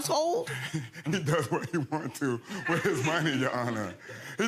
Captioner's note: chuckles